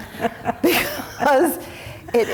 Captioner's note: laughing